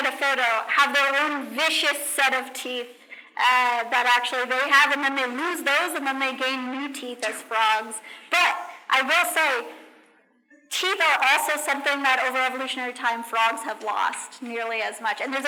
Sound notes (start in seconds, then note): none